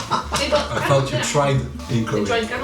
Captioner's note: dumbfounded laugh